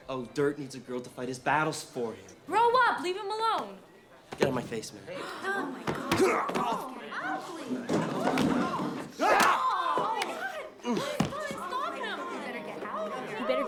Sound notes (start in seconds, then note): 6.2 Torpey groans; 7.0 patrons gasping; 9.6 Torpey groans